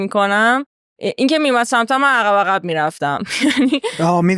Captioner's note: laughs